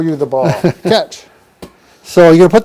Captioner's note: laughing